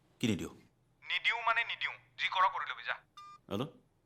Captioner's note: over Phone